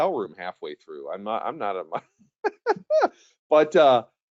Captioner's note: chuckles